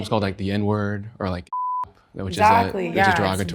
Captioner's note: beep